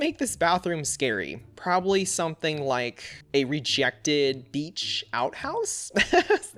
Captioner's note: laughs